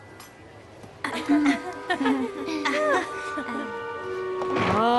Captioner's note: nervous titters